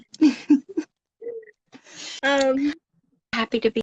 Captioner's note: giggles